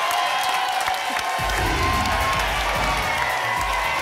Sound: applause and cheering; whoosh; applause and cheering cont

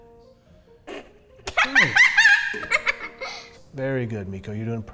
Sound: laughs

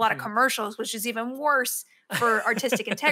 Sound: laughs

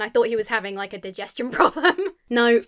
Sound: laughs

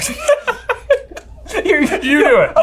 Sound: both laugh

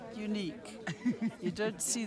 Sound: laughs

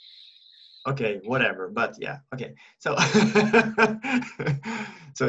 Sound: in English

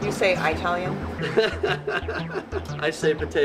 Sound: laughter

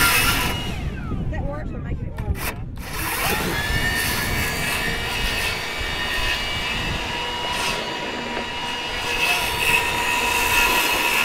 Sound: sawing

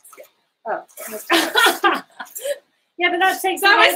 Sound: laughing

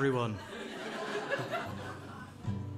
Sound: laughter

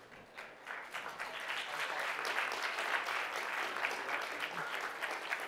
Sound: applause

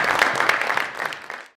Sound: audience clapping

